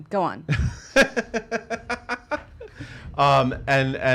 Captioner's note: chuckling